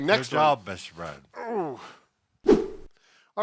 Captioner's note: grunts; air whooshes